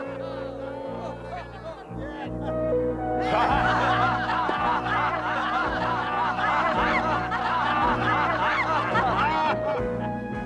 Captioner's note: people continue laughing